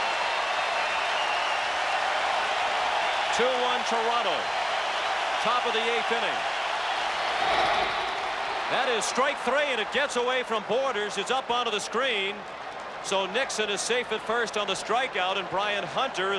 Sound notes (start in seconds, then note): 6.0 cheering and Applause